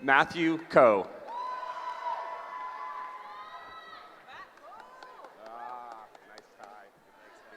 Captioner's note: cheering